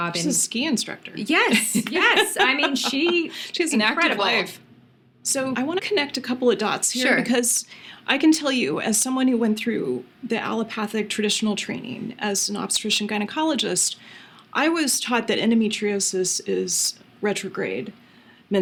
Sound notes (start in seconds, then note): 1.5 laughing